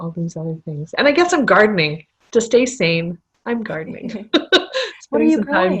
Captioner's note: laughter